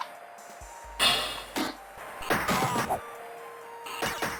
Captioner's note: video game noises